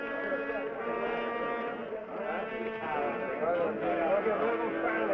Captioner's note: townspeople murmuring